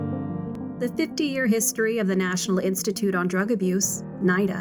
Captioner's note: female voice over